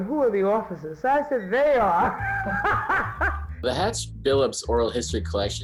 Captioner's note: laughing